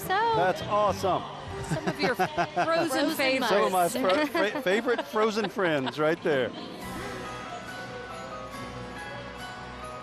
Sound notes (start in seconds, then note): 0.0 laughing; 6.7 holiday music